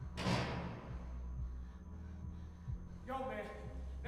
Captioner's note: door slams